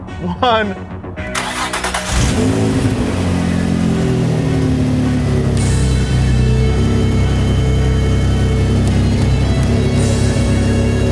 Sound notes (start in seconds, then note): 1.6 car engine roars to life; 5.2 music heightens